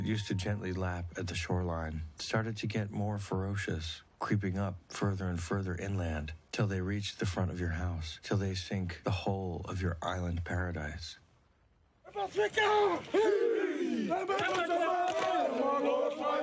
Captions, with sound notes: that used to gently lap at the shoreline started to get more ferocious, creeping up further and further inland till they reached the front of your house, till they sink the whole of your island paradise. (men all chanting)